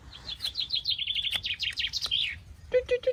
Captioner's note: birds chirping